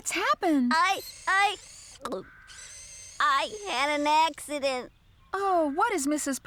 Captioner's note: gulp!